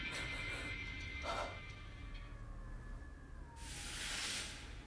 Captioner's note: muffled shrieking